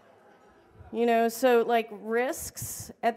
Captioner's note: laughter